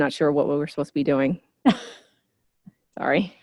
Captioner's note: laughter